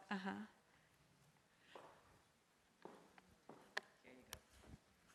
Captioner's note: footsteps